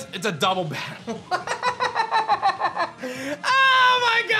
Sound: laughs

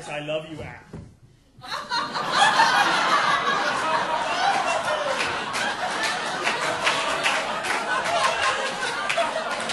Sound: audience laughing

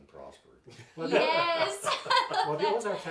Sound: laughs

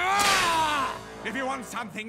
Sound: pissed off noises

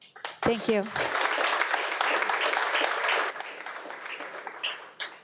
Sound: audience applauding

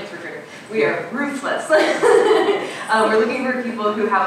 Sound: laughing

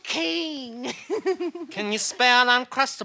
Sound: laughs

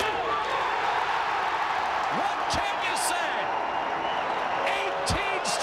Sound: crowd cheering

